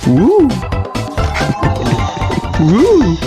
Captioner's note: laughs to myself